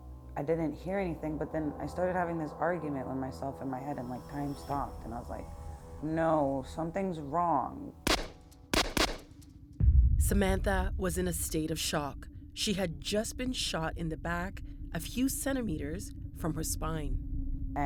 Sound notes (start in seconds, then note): 8.7 gunshots firing